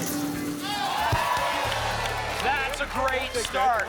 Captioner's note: applause and cheering